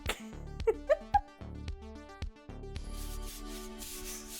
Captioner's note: laughing; upbeat music